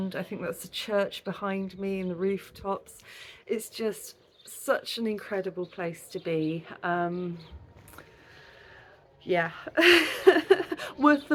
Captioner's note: laughing